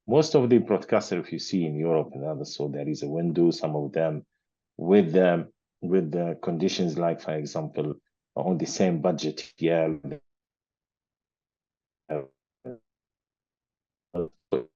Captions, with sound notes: Most of the broadcasters thar you see in Europe and others. So there is a window, some of them with the conditions, like for example, on the same budget. (speaker speaking faintly)